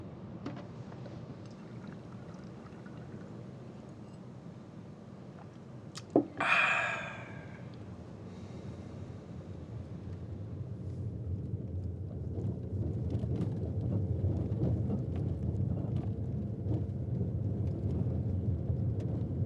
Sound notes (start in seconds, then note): 6.2 sighs